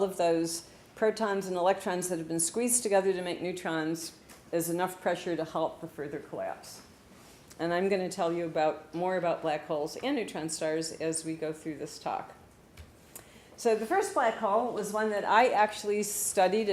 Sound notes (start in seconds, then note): none